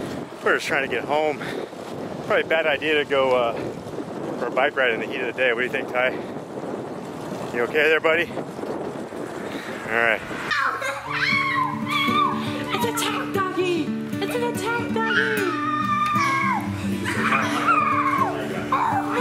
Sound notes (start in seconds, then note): 10.4 screaming; 15.1 screaming